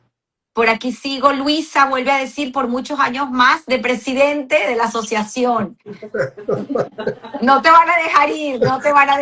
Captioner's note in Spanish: risas